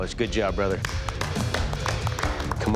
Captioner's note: applause